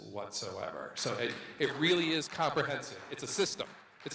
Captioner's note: audience members clapping